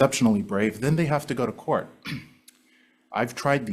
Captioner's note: clears throat